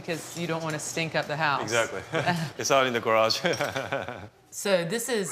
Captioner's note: laughs